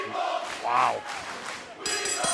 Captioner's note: crowd cheering